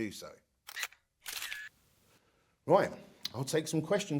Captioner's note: cameras clicking